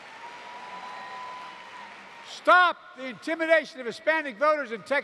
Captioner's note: applause